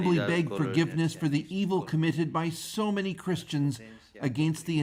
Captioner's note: speaking alternate language